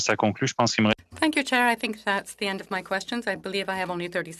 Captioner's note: speaking French